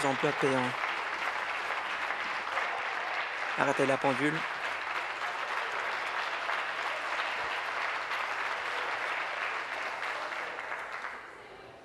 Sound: applause

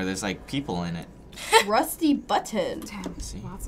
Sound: laughs

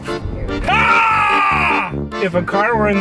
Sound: screaming

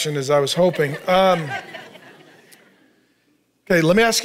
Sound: congregation laughing

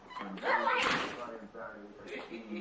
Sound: laughter

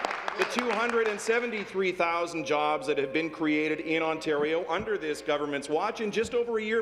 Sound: applause

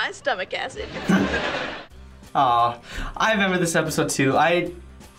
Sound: laughs

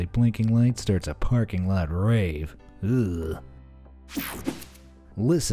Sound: groans

